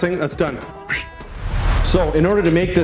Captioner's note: whooshing